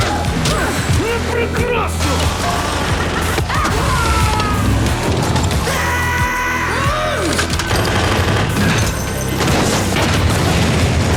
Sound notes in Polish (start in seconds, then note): 3.4 wrzask; 3.5 szaleńczy śmiech; 5.6 wrzask; 5.9 jęk wysiłku